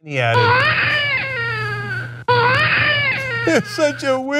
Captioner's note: baby crying